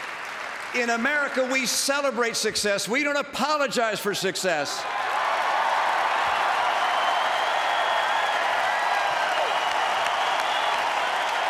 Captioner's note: applause